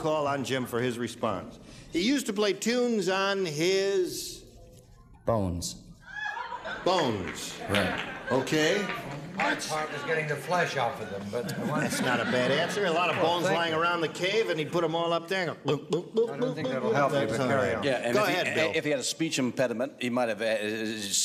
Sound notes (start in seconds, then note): 6.0 laughter; 15.1 imitates xylophone; 19.8 stutters